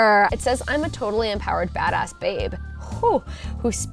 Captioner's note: exhales